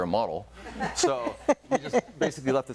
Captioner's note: audience laughing